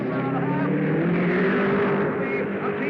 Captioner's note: cars revving